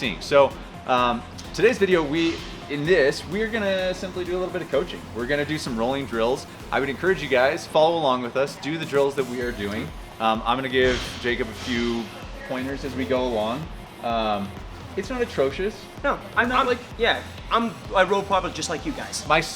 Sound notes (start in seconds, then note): none